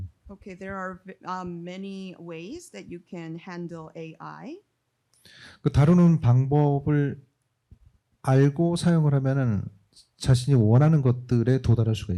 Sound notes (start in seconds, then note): 5.5 speaking korean